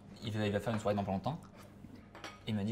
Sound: slurps

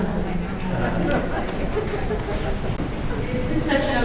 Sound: audience laughing

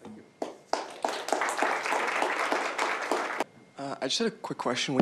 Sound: applause

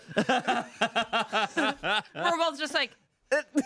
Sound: everyone laughs

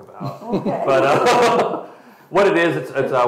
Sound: laughs

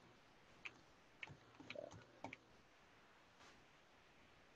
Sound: keyboard clicking

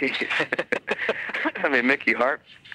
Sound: both laughing

